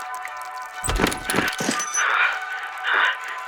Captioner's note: door opens, soldier 2 panting